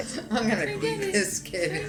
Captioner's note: laughing